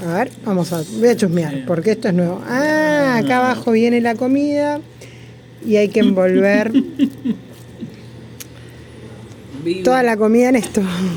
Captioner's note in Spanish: risas